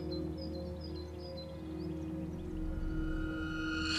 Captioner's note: birds chirping; gentle melodic music; soft tense music